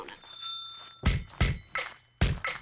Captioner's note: bike bell ringing; upbeat music